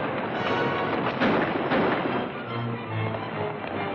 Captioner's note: firing